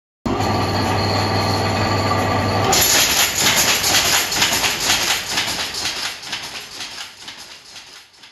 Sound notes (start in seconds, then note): 0.3 machine whirring; 2.7 clattering noise of loom engaging